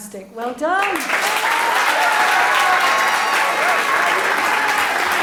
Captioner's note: audience applauds